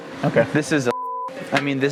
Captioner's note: beep